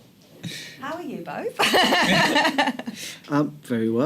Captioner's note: laughter